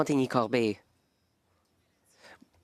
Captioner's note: speaking French